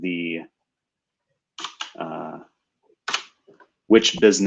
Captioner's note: typing